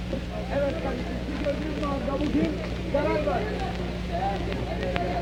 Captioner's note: all chattering